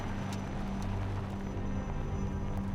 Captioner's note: aircraft noise